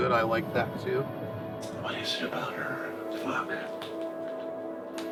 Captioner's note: whispering